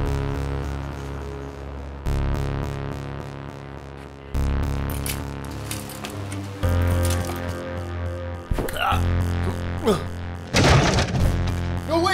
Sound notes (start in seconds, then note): 9.4 groaning; 10.4 thudding